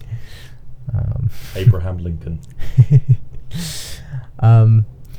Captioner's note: chuckles